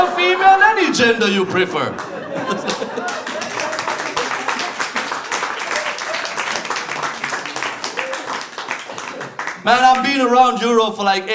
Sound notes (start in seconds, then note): 2.6 laughter and applause